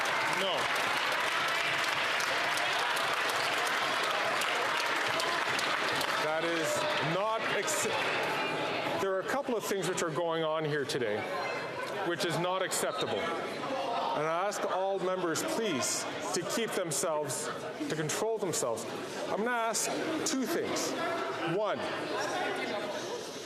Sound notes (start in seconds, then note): 6.8 some Applause